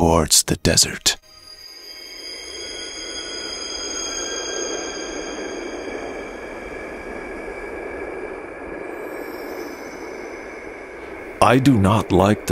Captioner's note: magical dessert sounds, dry wind is blowing